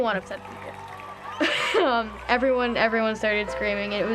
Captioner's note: ensemble screaming